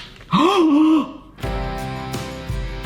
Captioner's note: gasps; uplifting music